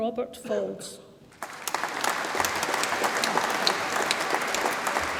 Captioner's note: audience applauds